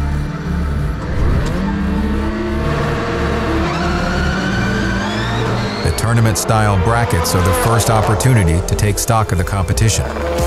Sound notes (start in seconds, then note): 0.5 electronic music; 3.5 cars revving